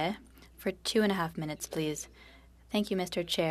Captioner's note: speaking french